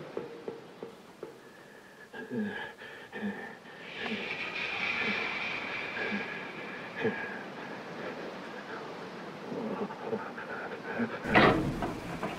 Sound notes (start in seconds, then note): 3.2 breathes out loudly; 3.8 eerie music; 6.7 breathes out loudly